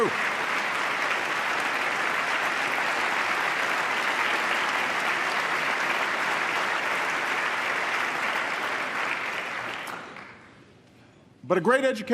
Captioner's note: applause